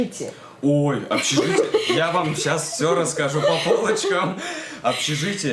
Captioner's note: laughter